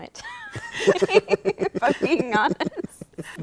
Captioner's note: laughter